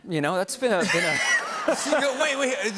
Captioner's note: laughter